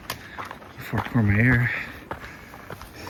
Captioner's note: cow bells